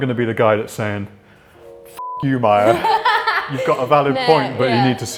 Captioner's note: beep